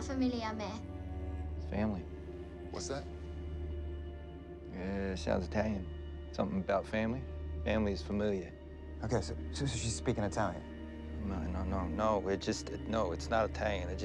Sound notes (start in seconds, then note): 7.9 speaking in foreign language